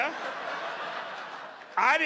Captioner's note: audience laughing